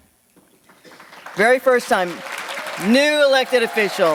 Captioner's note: audience clapping